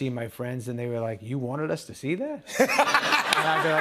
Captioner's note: laughter